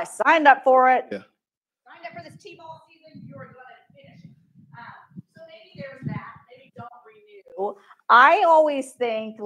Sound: microphone cuts out

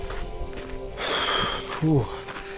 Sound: breathing heavily

